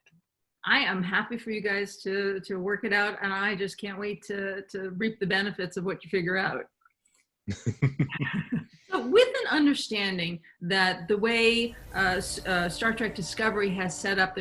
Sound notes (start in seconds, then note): 7.5 laughing